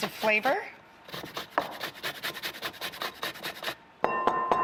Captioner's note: loud grating